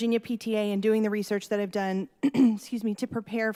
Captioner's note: coughs